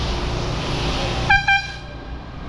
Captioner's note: airhorn